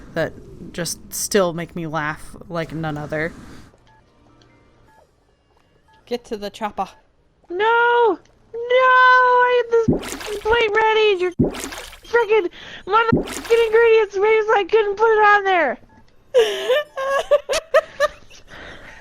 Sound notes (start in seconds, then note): 9.8 bloop; 13.4 bloop; 16.4 dying of laughter